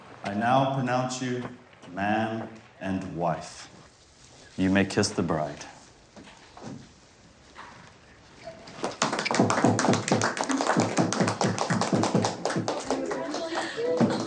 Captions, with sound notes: - I now pronounce you man and wife. You may kiss the bride. (guests clapping)